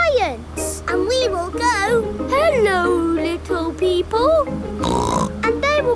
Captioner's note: snorts